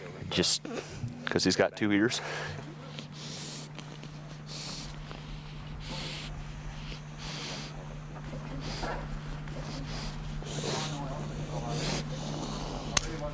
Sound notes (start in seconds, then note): 3.3 laughs; 4.0 wolf heavily breathing